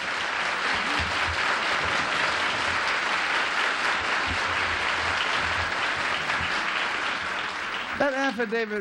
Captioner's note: applause